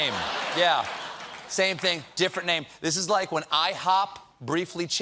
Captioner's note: laughter